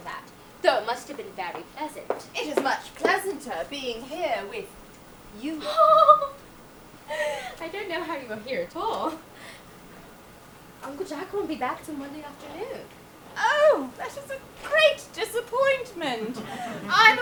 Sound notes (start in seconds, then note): 5.4 Cecily giggles